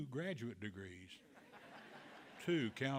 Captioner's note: audience laughing